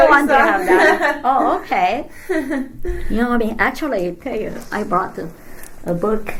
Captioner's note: all laugh